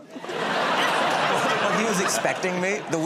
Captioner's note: laughter